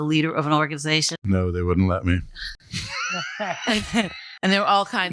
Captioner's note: laughter